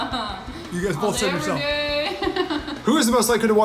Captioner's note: laughs